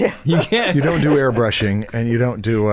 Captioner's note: chuckles